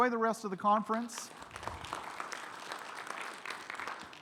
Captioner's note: audience clapping